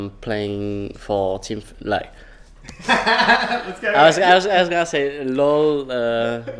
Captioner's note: sighs